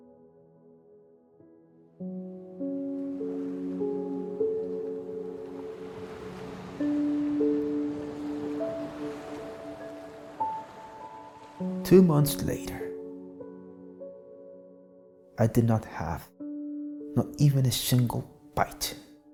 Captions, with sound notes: (gentle music continues) (waves crashing) Two months later, I did not have not even a single bite,